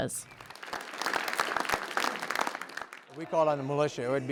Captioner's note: audience applauds